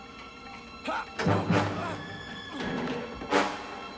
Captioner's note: grunts